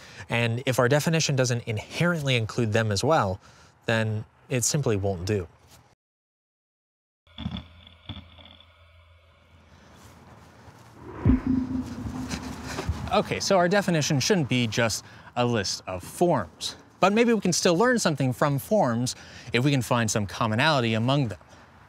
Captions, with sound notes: and if our definition doesn't inherently include them as well, then it simply won't do. [grinding] [spacious ping] Okay. So our definition shouldn't be just a list of forms. But maybe we can still learn something from forms if we can find some commonality among them,